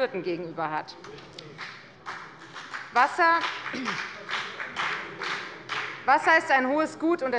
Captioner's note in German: Beifall bei der FDP